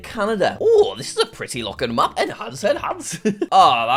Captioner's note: laughs